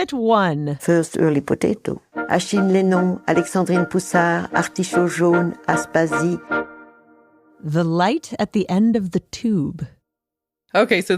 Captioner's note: speaking French